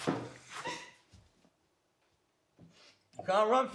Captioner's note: Betty crying